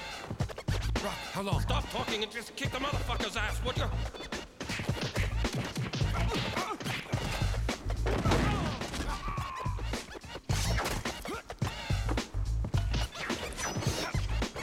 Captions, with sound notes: - ROCK, HOW LONG ? - STOP TALKING AND KICK ASS, WOULD YOU ? - [ Cries Out ] - [ Grunts ]